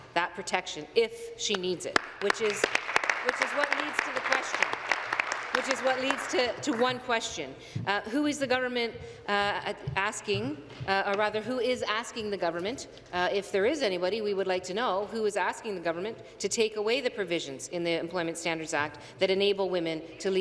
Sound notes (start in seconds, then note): 5.7 applause